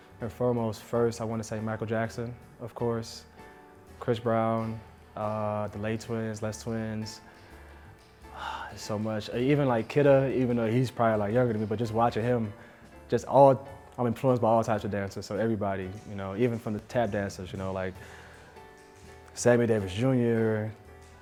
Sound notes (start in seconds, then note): 8.3 sighs